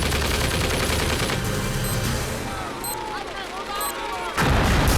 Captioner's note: explosives beeping; explosion rumbles